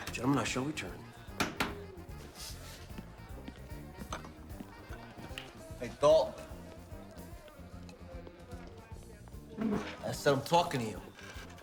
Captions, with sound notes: - Gentlemen, I shall return. (hand tapping) - Hey, Dalton. Esse, I'm talking to you.